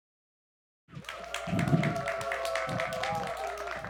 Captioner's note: applause